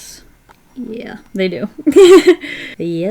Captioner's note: laughs